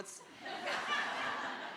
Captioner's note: audience laughing